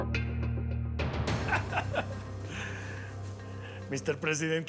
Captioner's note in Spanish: risas